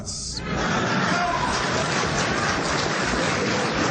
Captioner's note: audience applause